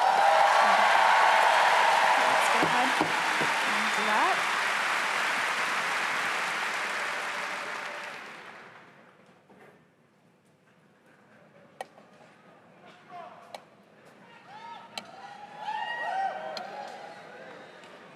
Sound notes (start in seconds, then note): 7.2 cheers and applause